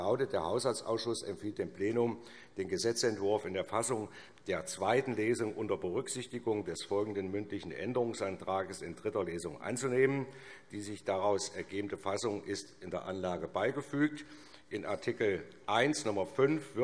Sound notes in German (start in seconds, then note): none